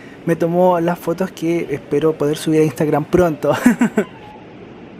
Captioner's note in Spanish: risas